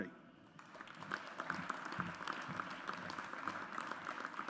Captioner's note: audience applauds